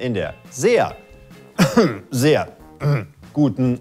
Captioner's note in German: Er räuspert sich